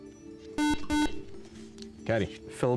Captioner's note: buzzer